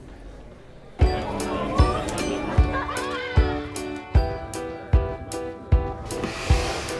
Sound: upbeat music; students laughing

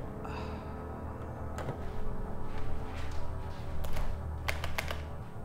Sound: Sandra sighs softly; switch clacking

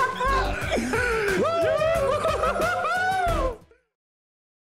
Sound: both laugh; both cheer

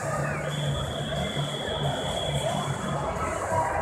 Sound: loud whistle; loud crowd noises

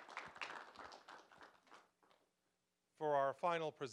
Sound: applause

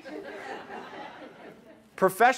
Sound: laughing

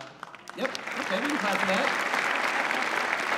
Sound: applause

